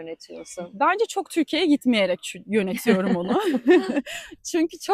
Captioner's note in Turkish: kahkaha